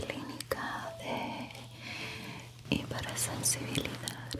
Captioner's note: none